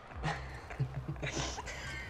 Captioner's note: Scarlet giggling; boy giggling